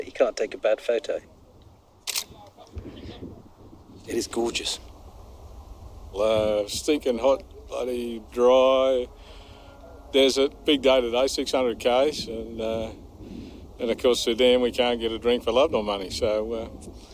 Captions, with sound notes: You can't take a bad photo. (Camera click) It is gorgeous. Well stinking hot, bloody dry. Desert. Big day today. 600ks and, ah. And of course, Sudan. We can't get a drink for love nor money. So er.